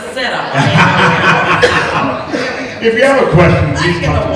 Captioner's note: laughter